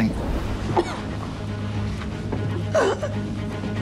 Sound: coughing

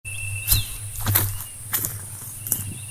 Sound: footsteps

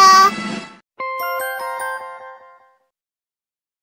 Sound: computer-generated twinkle sound

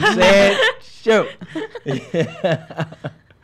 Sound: laughs

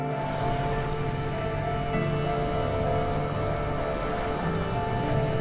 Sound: waves crashing against shore

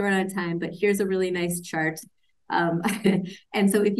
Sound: laughs

